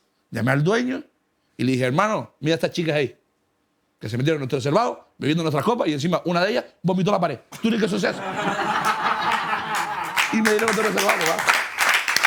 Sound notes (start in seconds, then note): 9.1 laughter and applause